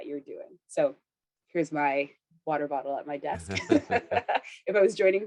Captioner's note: laughs